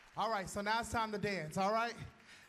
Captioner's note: applause